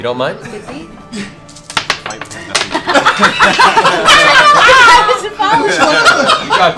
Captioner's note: laughter